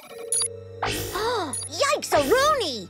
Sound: gasping

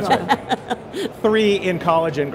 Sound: laughing

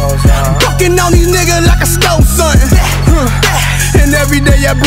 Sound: bah, bah

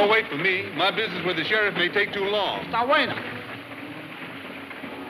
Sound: speaking foreign language

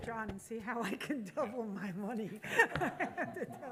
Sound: laughs

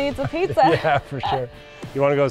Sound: laughs

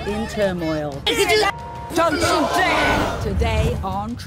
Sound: women yelling at each other

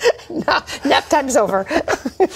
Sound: laughter

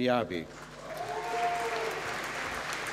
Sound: applause

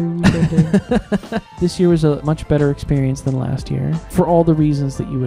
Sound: laughing

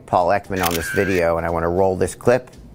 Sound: camera clicks

